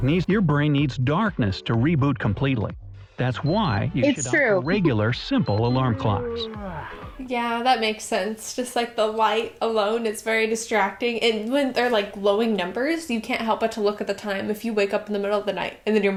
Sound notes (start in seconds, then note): 4.7 laughs